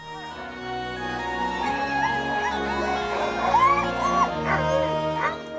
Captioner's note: dogs barking and howling